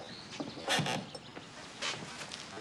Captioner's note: floorboard creaks